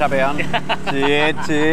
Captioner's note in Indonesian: Hahaha